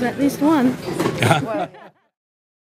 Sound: laughter

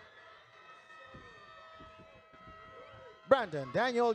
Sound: audience cheers

